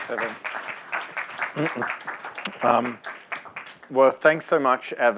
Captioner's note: applause